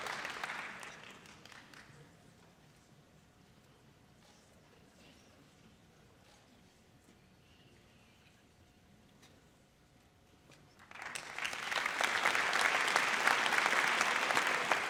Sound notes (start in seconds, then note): 10.8 audience applauds